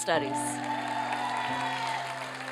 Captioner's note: applause